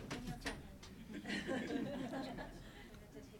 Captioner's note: laughs; laughing